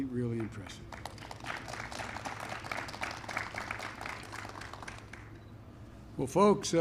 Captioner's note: applause